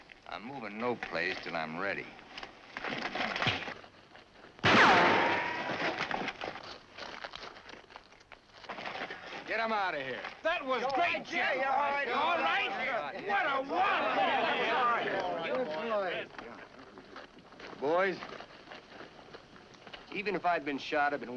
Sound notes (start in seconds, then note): 4.6 gun fires; 14.4 men chatter excitedly